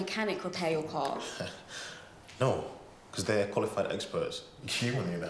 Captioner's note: laughs